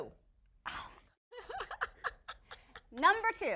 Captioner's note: laughing